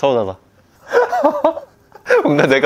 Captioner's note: laughing as if he feels guilty about a lot of things